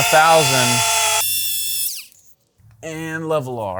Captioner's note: tape forwards